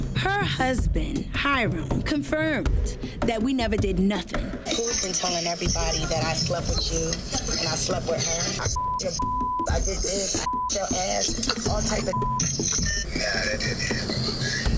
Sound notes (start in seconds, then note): 8.6 beep